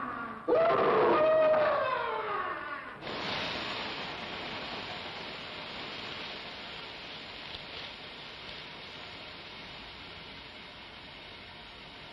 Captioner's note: scream